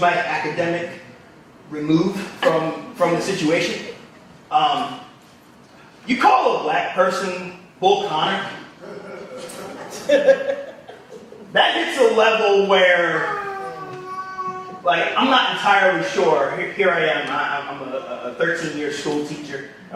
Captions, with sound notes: my academic remove from the situation. You call a black person Bull Connor, (audience members laughing) that hits a level where I'm not entirely sure. Here I am, I'm a 13 year school teacher,